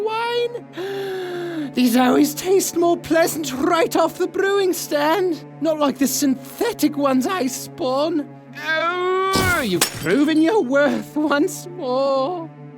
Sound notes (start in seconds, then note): 0.7 gasp